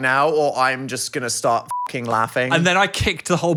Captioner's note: beep